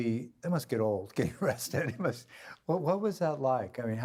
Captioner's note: laughing